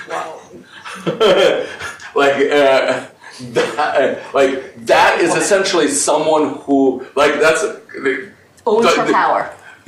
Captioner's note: laughs